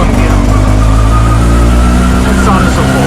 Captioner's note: engine sound